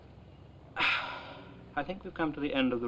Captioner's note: exasperated sigh